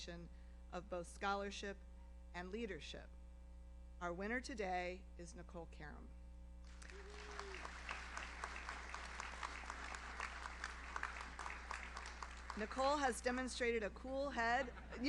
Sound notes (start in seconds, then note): 6.7 audience applauds; 6.8 audience member cheers